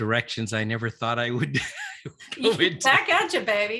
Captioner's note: laughs